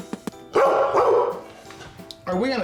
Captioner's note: dog barks